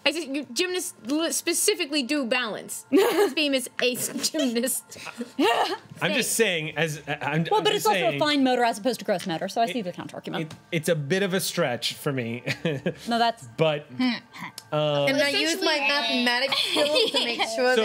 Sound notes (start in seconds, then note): 4.9 laughing